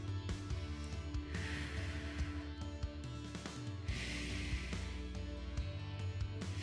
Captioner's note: upbeat music continues; exhaling